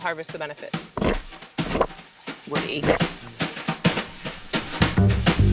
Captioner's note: eating noise; theme music